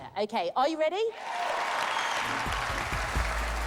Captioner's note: cheering